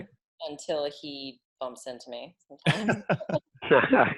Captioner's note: laughs